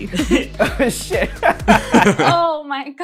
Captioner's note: laughter